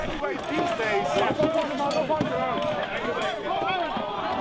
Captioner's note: shouting